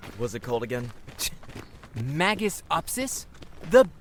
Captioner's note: scoffs